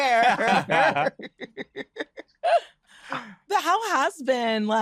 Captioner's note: laughs